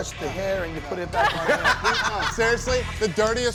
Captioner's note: laughing